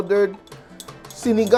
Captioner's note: clang